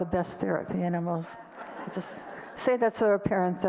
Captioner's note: audience laughter